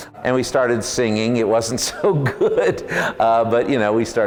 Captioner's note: laughs